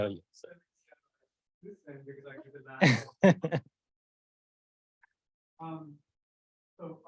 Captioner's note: host laughing